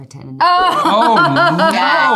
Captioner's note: Natalie laughing